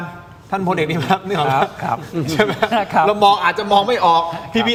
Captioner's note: laughs